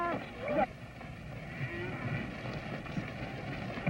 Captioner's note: mooing